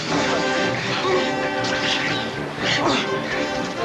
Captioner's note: laughing